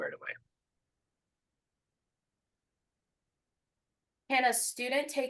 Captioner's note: silence